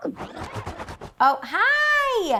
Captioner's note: page flipping rapidly